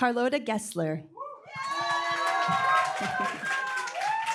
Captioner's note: applause, cheering